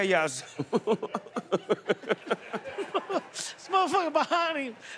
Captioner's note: laughter